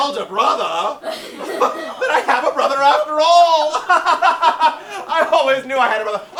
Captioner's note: laughs